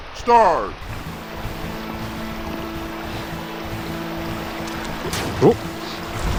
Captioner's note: water trickling continues